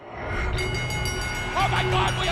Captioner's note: bell ringing